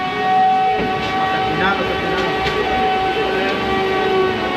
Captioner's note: robots continue whirring